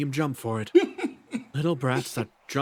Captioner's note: tiny Laugh